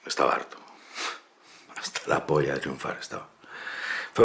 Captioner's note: sighing